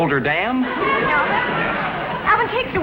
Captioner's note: audience laughs